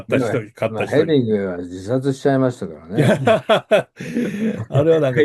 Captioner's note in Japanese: 笑い